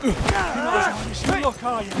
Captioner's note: groaning